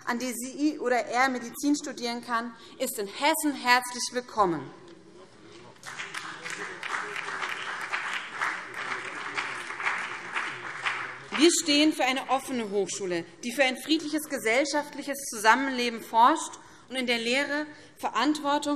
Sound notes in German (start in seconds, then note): 5.7 Beifall BÜNDNIS 90/DIE GRÜNEN